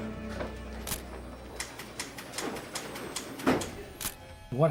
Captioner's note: camera snaps